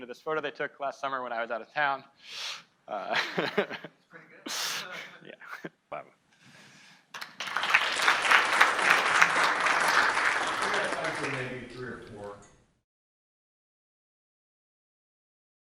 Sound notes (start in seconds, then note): 3.0 laughs; 7.1 audience clapping